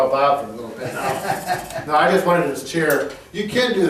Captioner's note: laughing